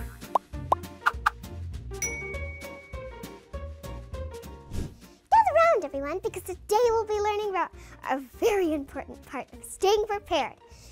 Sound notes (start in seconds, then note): 0.0 wire bouncing; 2.0 lightbulb dings; 4.3 air swish